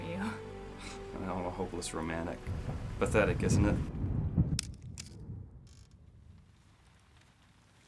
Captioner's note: water Splashing